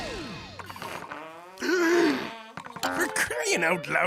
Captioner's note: fart sound; Mr. Krabs gasps